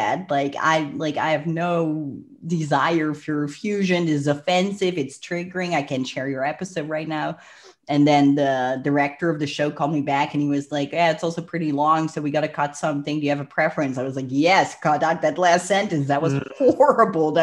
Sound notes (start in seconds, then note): 7.3 breath